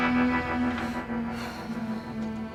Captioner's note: sighs